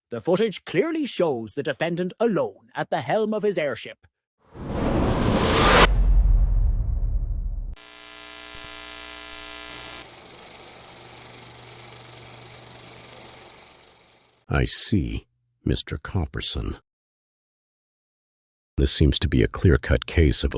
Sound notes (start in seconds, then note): 4.5 whoosh!; 7.8 electrical static; 10.0 film reel clicking